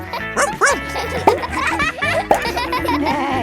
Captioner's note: barks